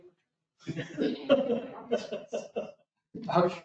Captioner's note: laughter